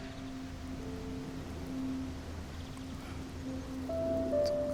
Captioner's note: birds chirping; sentimental music